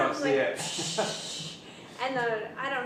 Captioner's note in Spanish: risitas